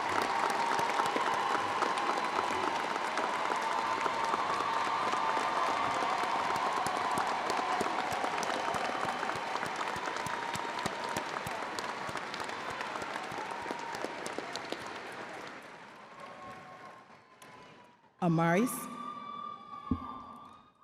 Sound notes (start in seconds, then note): 0.1 crowd applauding continues; 10.0 crowd applauding continues